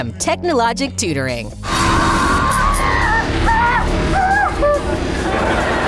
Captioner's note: squealing